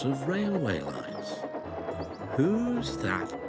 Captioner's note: train puffing